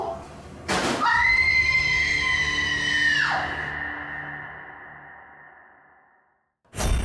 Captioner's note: bags thud; nurse screaming